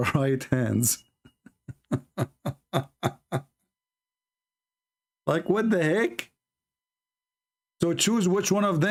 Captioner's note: Ketawa